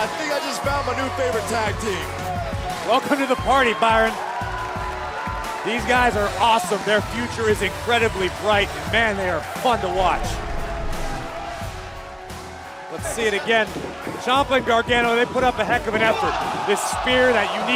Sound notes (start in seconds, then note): 6.5 crowd cheering